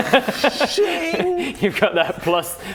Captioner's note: schiiiing!